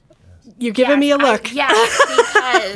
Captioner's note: laughs